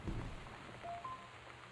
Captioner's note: soft thump, then two-tone